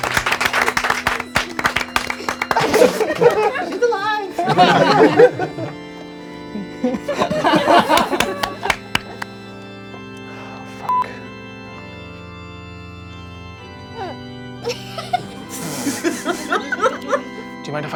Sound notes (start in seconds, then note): 0.1 organ music playing; 5.3 crowd laughing; 7.2 organ music playing; 14.6 laughing